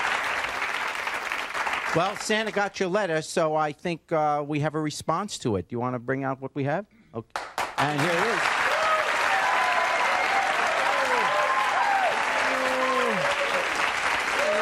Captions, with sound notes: Well, Santa got your letter, so I think we have a response to it. You want to bring out what we have? And here it is. (audience cheering and applauding)